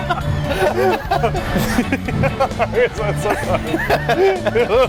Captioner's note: laugh; laughs